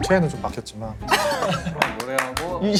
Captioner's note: laughing